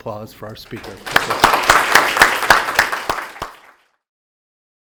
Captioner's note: all applaud